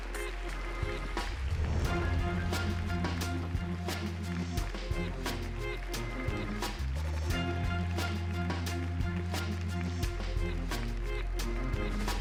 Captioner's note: applause